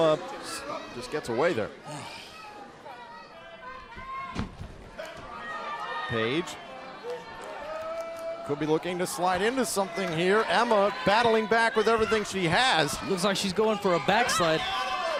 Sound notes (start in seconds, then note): 6.9 crowd chatter